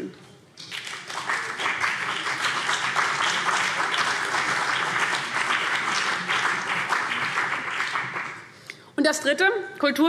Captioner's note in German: Beifall CDU und BÜNDNIS 90/DIE GRÜNEN